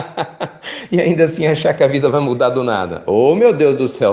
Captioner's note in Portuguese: risos